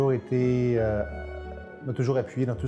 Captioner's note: none